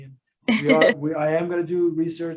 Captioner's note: laughs